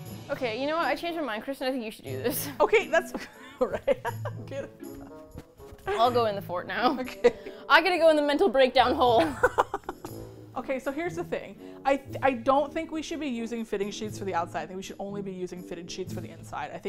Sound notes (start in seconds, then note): 3.2 laughs